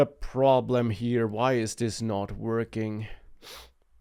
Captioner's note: sniffing